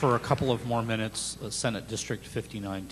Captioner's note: applause